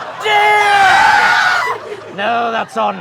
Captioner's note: screaming in unison